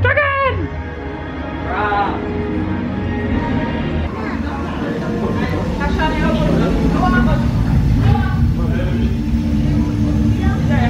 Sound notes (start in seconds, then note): 6.3 dragon growls